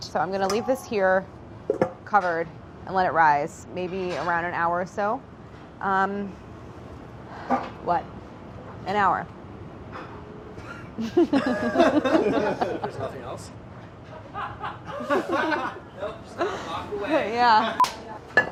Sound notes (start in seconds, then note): 10.9 laughing; 14.3 laughing